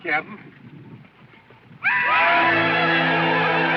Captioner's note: indians hollering; dramatic music